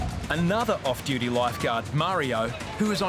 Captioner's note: none